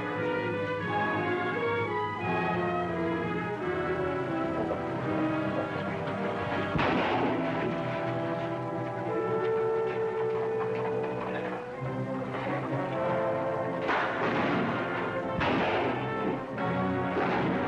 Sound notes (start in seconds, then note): 6.4 gunshots